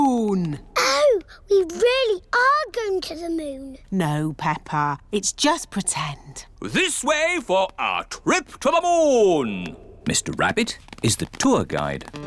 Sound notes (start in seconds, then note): none